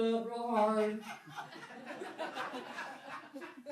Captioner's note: laughing